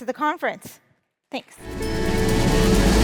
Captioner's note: upbeat music; audience clapping